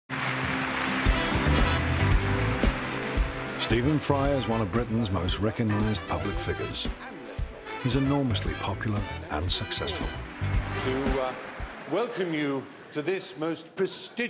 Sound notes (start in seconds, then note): 0.0 audience applause; 0.3 upbeat music